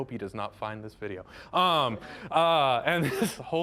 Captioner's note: audience laughing